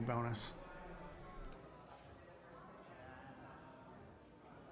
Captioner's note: people chattering